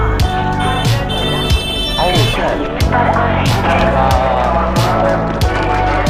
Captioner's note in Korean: 격하게 반겨주는 경적소리